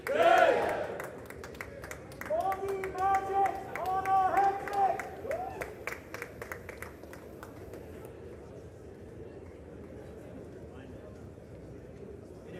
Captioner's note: crowd chanting